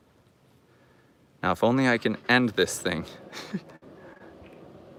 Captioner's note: laughing